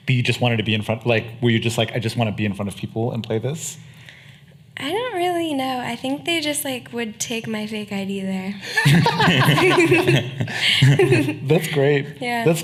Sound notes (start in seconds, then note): 8.7 laughing